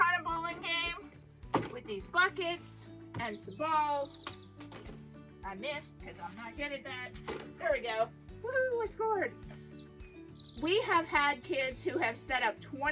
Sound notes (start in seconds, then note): 3.1 ball bouncing; 7.3 ball bouncing; 7.3 storage bin moving